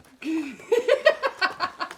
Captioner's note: mom laughing